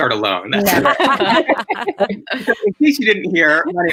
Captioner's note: laughing